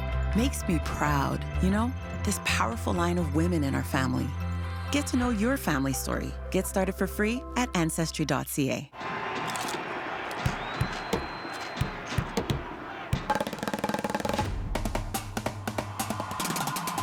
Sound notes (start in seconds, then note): 11.8 rhythmic tapping; 15.1 elaborate drumming